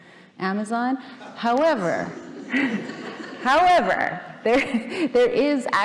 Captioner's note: audience laughing